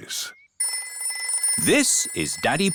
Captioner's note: phone rings